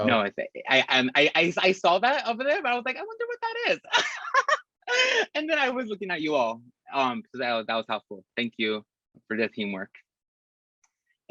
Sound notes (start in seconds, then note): 3.8 risas